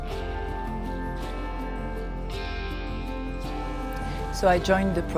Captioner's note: church bells ring